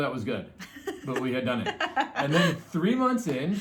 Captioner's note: laughs